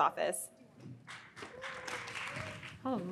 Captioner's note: audience claps